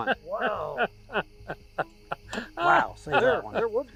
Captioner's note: laughs